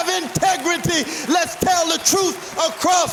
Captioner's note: applause